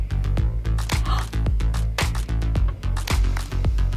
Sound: gasping

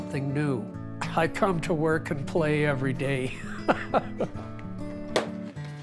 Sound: chuckles

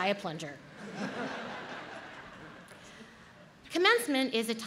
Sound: audience laughs

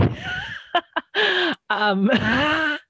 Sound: laughs

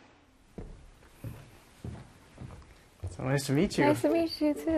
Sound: footsteps approaching

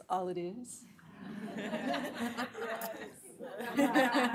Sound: laughter

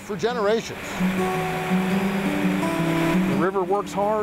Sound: water flowing

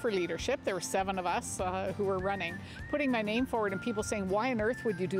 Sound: whistling

